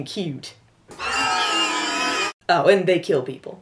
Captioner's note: shrieks